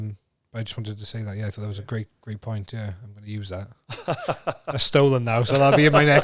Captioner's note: laughs